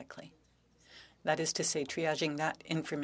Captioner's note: speaking French